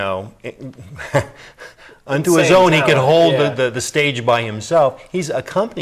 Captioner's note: laughs